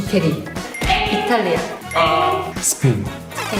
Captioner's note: sound meaning it's wrong